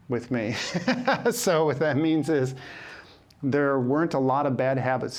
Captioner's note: laughs